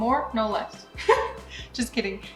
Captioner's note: laughing